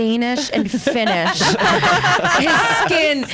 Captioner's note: laughs